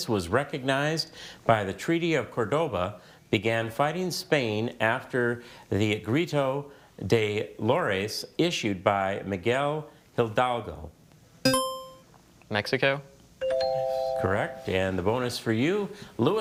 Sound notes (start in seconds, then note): 11.5 buzzer chimes; 13.4 bell chimes